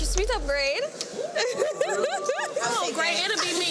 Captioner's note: group awing; woman chuckling